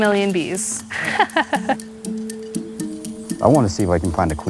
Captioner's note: laughs